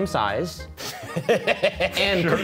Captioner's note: laughing